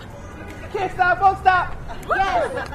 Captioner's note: cheers